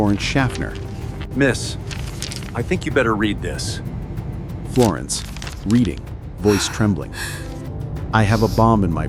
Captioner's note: reading, voice trembling